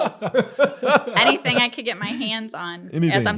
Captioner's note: laughter